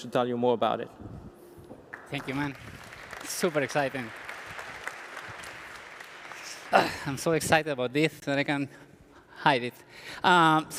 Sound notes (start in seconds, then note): 4.1 applause